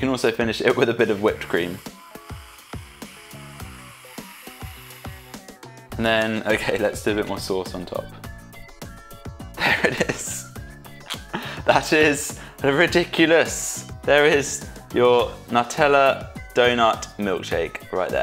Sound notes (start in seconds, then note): 1.9 upbeat music; 9.5 laughs